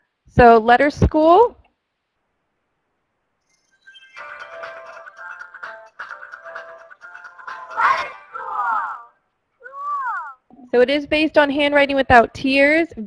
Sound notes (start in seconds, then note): 3.8 upbeat music; 7.9 voiceover; 10.8 voiceover